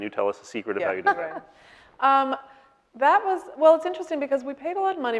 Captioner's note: laughing